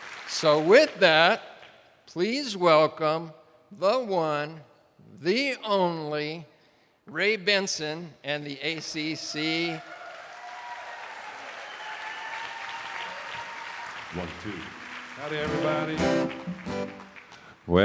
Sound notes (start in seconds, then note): 9.7 attendees applauding; 14.6 guitar strumming